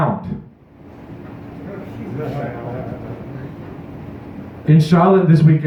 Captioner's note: audience members remarking